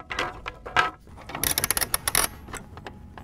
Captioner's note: winding